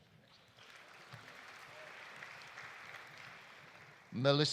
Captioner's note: audience applauding